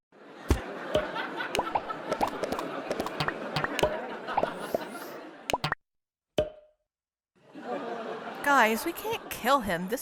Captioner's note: phone beeps. a lot